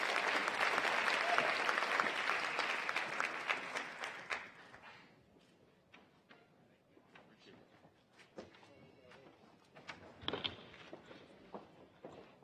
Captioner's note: applause